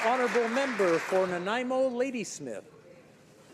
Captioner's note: some Applause